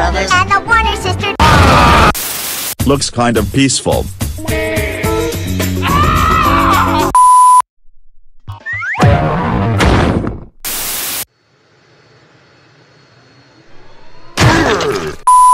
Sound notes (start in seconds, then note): 5.8 scream; 14.3 Thwomp Sounds